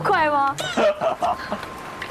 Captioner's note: hahaha